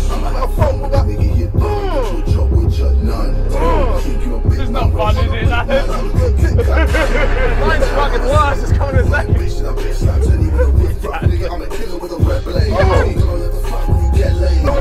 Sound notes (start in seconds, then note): 7.4 bang